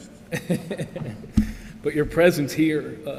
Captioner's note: laughs